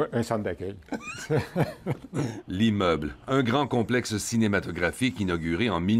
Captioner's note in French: rires